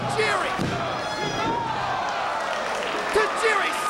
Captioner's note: audience shouting